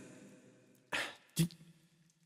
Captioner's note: sigh